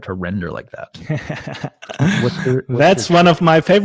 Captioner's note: giggles